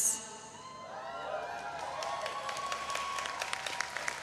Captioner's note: audience cheering